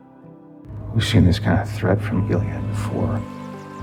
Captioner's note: voiceover